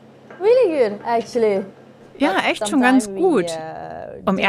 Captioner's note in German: englisch